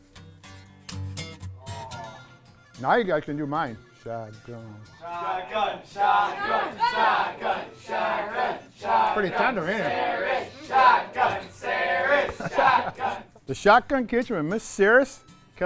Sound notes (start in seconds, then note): 0.1 crowd whoa!; 5.0 crowd chanting shotgun